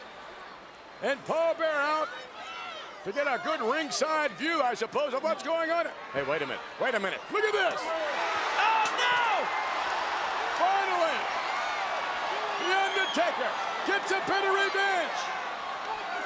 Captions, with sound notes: And Paul Bearer out to get a good ringside view, I suppose, of what's going on. Hey, wait a minute. Wait a minute. Look at this. Oh no! (crowd cheers) Finally the Undertaker gets a bit of revenge.